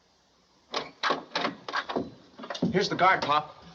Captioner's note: doorknob Turns